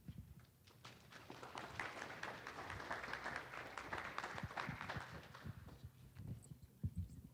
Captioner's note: applause